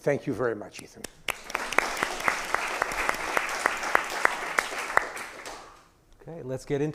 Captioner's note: audience applauding